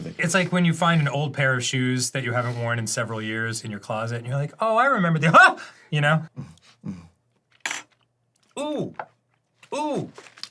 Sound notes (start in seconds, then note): 6.4 alternating grunting and sniffing